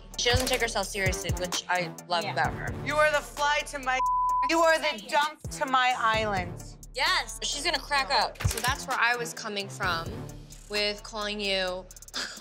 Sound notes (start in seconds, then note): 3.9 beep